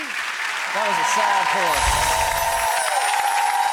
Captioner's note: cheering